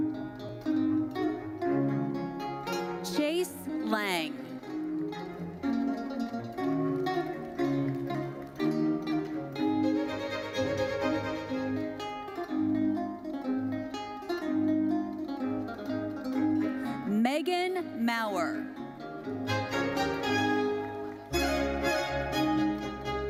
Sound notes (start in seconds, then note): 0.3 bright lively music continues; 4.6 bright lively music continues; 7.3 audience applauding; 13.8 bright lively music continues; 19.4 bright lively music continues